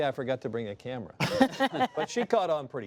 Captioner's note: laughing